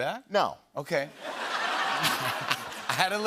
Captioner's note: laughter